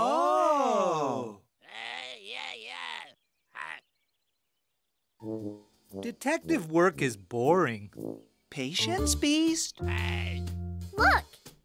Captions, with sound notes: Detective work is boring. Patience, Beast. (Ant grumbling) Look, he's moving toward the table leg.